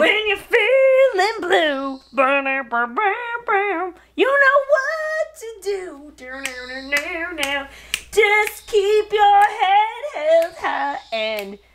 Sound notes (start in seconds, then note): 2.2 mimics jazz music; 6.2 mimics guitar